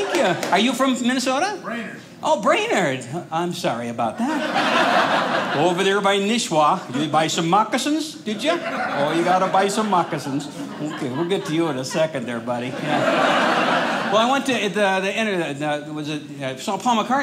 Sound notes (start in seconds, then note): 4.2 audience laughing; 12.9 audience laughing